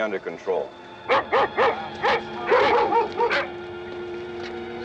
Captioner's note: barking